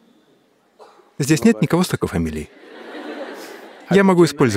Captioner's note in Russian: смеётся